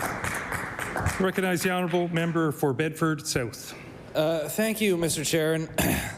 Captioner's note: some Applause